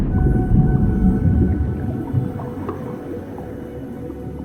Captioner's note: water bubbling